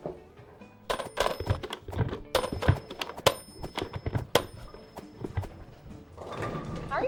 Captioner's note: phone ringing; shoes thumping